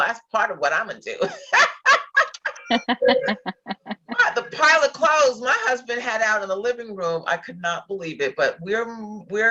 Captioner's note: laughter